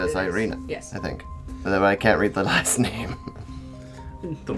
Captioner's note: laughs